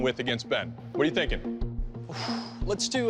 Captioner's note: exhales